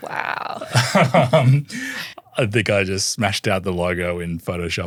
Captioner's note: laughs